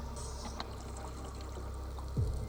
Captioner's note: underwater echoes